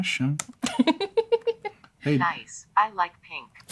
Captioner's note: laughter